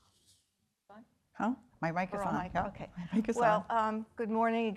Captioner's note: woman chattering